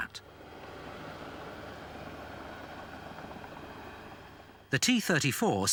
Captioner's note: machinery whirring